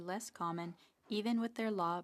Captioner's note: speaking French